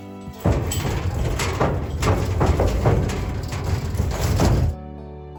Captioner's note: rattling trailer